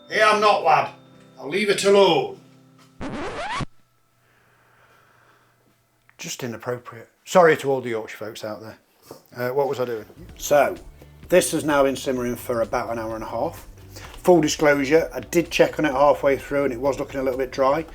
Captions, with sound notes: Ee, I'm not, lad. I'll leave it alone. (record scratching) Just inappropriate. Sorry to all the Yorkshire folks out there. What was I doing? So this is now been simmering for about an hour and a half. Full disclosure, I did check on it halfway through and it was looking a little bit dry.